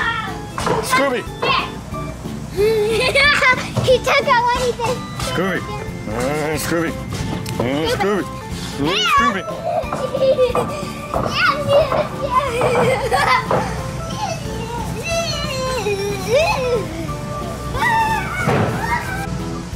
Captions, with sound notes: Scooby! He took away the stick Scooby! Scooby! Scooby! (laughter)